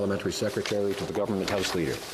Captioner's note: speaking French